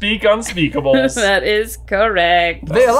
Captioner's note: laughs